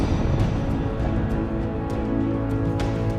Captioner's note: whoosh at separation